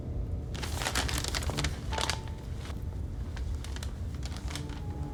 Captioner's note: tense music; envelopes crinkling